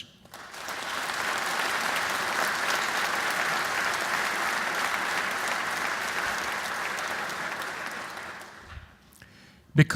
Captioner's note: applause